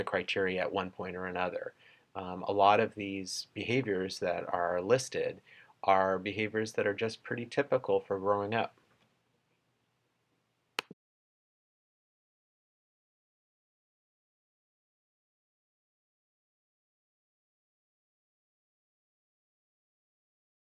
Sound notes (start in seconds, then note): 10.8 clicking noise; 12.6 silence